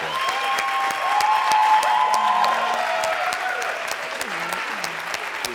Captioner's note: audience applauds and cheers